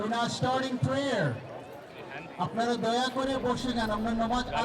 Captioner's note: non-english speech